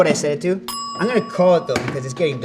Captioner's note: bell pings